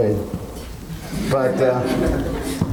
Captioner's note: audience laughs